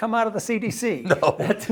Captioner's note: laugh